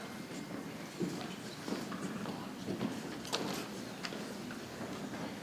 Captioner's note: people chattering softly